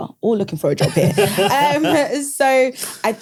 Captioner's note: laughs